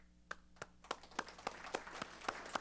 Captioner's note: applause